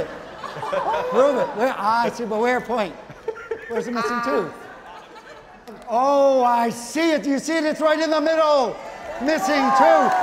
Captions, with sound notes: Ah, I see it, but where, point. Where's the missing tooth? Oh, I see it. You see it. It's right in the middle. Missing tooth. (audience clapping) Owen, stay right there.